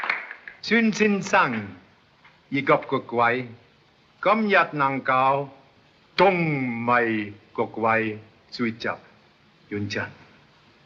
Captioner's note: speaking in Chinese